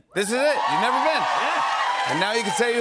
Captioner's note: cheers and applause